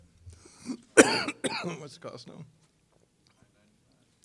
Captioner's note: coughing